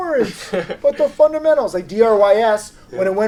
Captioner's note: laughing